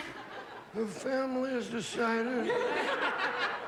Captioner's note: imitating the godfather